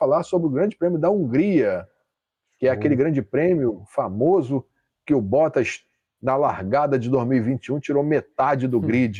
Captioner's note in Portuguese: limpando a garganta